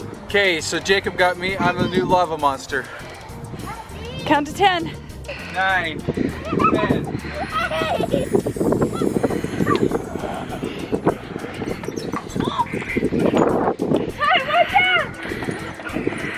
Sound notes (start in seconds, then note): 6.2 giggling; 10.3 growling